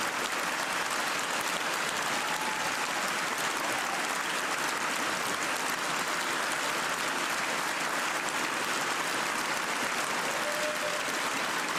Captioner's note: cheers and applause